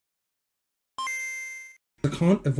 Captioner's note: gameboy noise